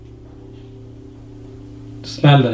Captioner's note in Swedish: smäll på bottenvåningen